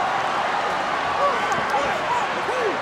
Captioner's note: crowd cheering